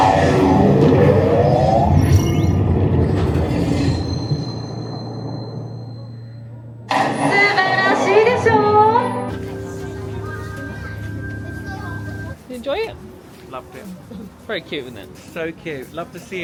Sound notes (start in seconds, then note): 7.7 character speaking Japanese